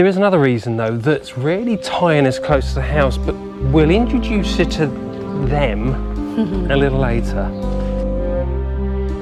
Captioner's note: laughter